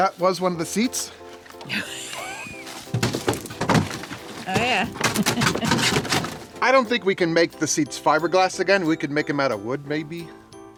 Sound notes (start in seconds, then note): 1.6 woman laughs